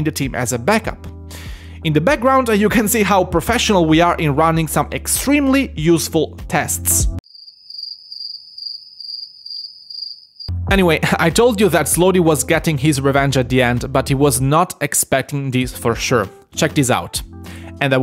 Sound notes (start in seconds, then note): 7.2 crickets sound